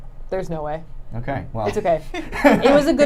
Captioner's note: laughing